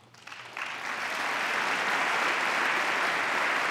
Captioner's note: applause